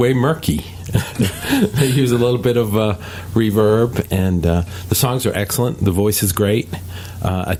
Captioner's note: they laugh